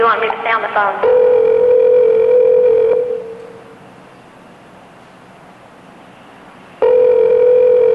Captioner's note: ringing